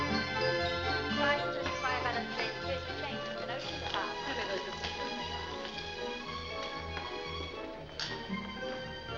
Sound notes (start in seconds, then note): 0.0 upbeat music; 0.0 indistinct conversation; 6.1 upbeat music